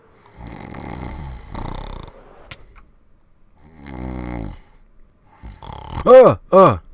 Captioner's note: snoring